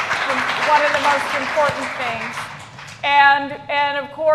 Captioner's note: applause